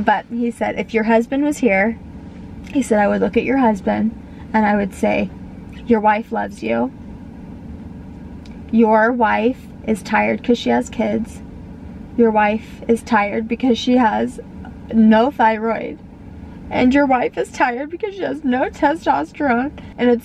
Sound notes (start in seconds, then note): none